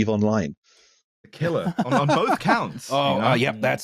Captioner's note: laughing